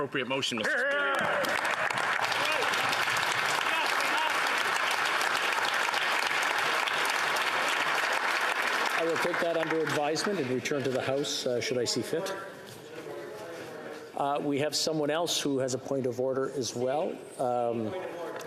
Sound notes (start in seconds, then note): 11.6 applause